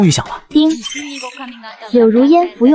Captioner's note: ding!